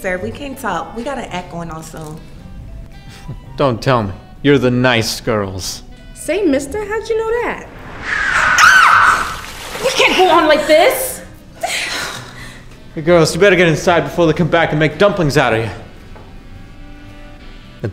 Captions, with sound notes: we've got an act going on soon. Don't tell me. You're the NICE GIRLS! Say mister, how did you know that? [SCREAM] We can't go on like this? Hey, girls, you better get inside before they come back and make dumplings out of you!